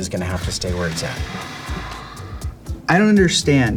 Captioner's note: sighing